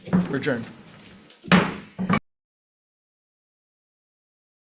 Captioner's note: gavel bangs